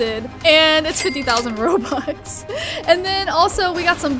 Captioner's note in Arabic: يضحك